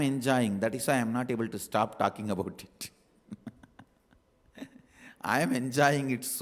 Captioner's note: laughs